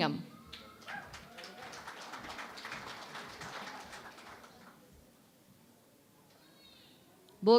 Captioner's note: applause